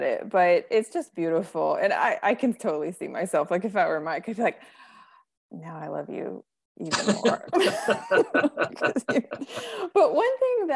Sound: both laughing

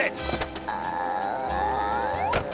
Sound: groaning

